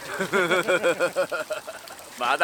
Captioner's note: laughs